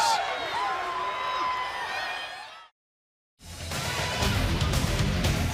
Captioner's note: crowd chatter